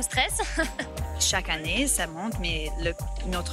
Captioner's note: laughs